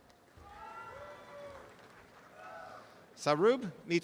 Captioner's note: audience applause